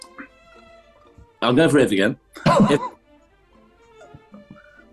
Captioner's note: laughing